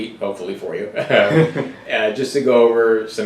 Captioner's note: laughing